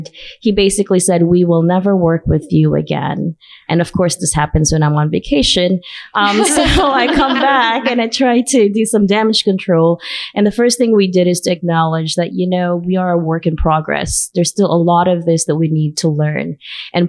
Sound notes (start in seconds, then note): 6.2 laughter